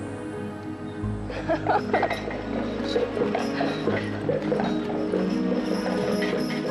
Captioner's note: light suspenseful music; hooves clopping; laughs